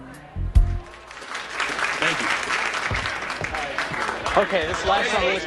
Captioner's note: Аплодисменти